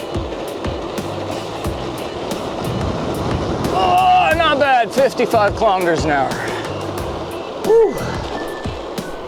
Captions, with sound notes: [wind rushing past] Oh, not bad! 55 kilometers an hour! Whew!